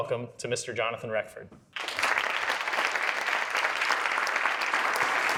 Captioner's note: audience applauding